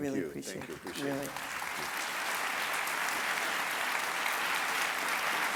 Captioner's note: audience clapping